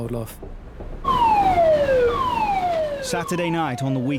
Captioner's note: alarm wailing